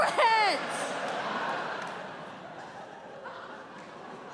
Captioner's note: audience laughing